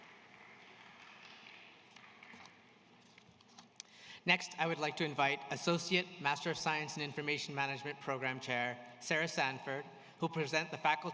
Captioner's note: applause